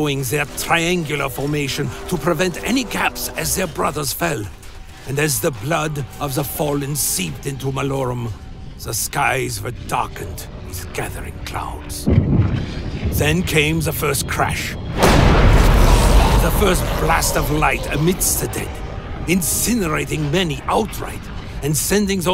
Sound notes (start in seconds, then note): 16.0 explosion